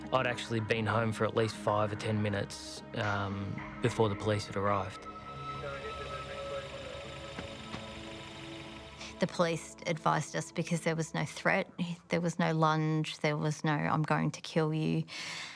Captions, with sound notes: I'd actually been home for at least five or 10 minutes before the police had arrived. (police sirens blaring) - The police advised us because there was no threat, there was no lunge, there was no, "I'm going to kill you."